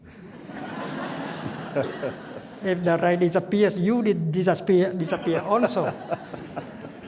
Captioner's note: laughter